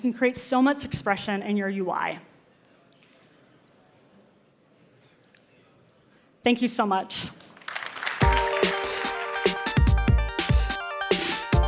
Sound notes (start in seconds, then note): 7.4 applause